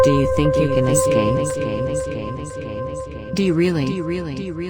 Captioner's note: voice echoing